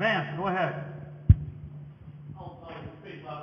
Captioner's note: microphone noise